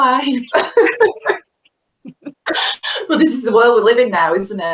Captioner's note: laughing